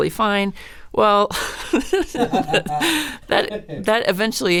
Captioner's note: laugh